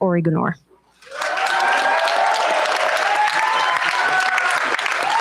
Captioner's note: cheers, applause